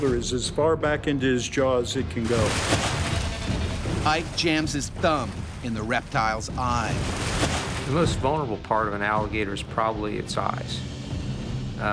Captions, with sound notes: My shoulder is as far back into his jaw as it can go. - [Voiceover] Ike jams his thumb in the reptile's eye. - The most vulnerable part of an alligator is probably its eyes.